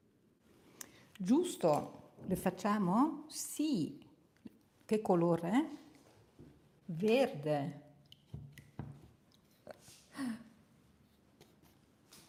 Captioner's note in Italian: sbuffare